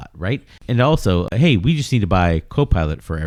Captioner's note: uh